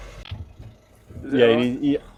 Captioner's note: sniffing